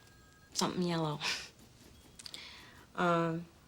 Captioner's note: chuckles